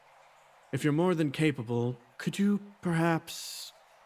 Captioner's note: none